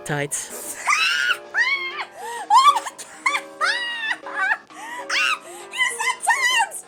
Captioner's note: uproarious laughter